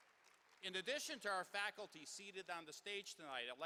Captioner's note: applause